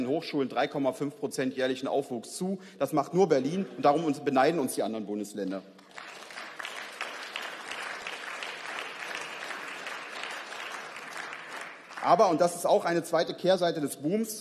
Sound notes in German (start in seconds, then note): 5.7 Beifall